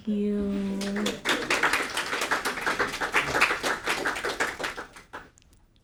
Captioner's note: audience applauding